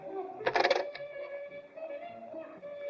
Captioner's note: playful music; phone clatters into receiver